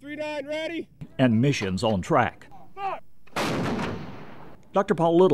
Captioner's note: artillery fire